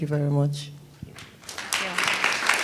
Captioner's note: applause